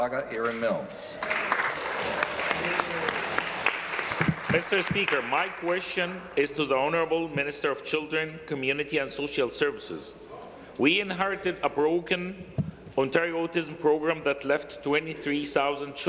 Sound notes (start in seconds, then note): 5.5 applause